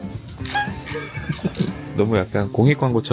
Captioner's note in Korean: 웃음